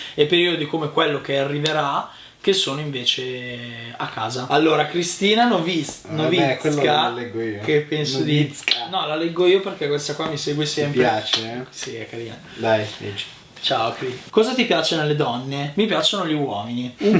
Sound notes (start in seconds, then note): 11.2 smack